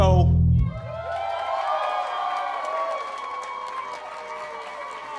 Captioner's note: audience cheering